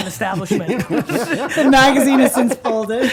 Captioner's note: laughter